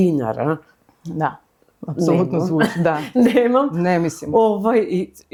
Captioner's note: laughs